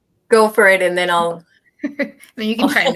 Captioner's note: laughter